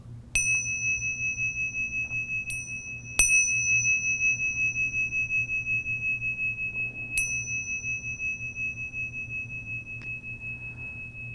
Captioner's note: bell dinging